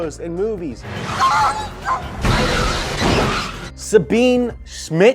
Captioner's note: metal crashing; dog yelping